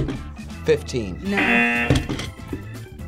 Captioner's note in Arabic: يرن الجرس